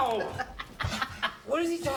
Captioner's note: laughs